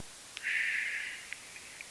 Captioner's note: sigh